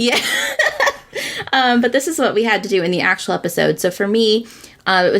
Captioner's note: laughs